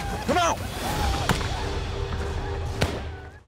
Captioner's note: gunfire